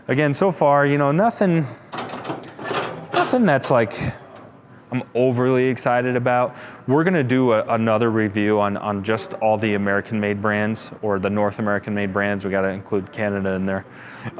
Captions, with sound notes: Again so far, nothing, (metal cranking) nothing that's I'm overly excited about. We're gonna do another review on just all the American made brands or the North American made brands, we gotta include Canada in there.